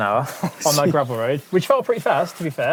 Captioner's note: laughs